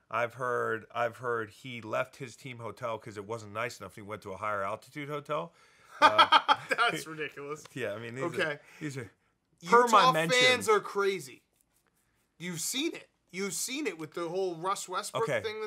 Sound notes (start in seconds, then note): 6.0 laughing